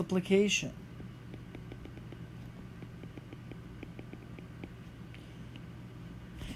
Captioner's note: writing